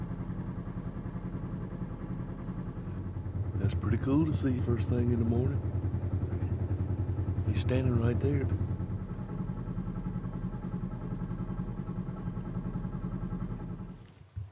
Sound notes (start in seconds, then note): 6.0 motor running